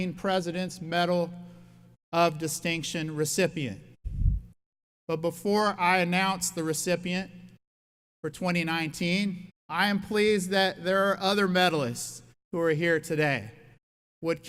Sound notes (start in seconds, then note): none